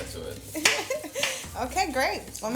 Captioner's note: laughs